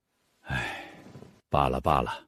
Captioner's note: sigh